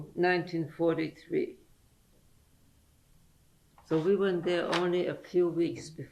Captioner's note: pauses for 3 seconds